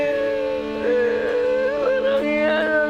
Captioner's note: wailing